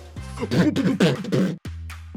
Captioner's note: beatboxing